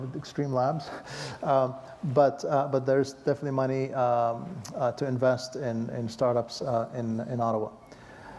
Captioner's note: laugh